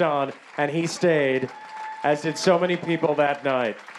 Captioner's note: applause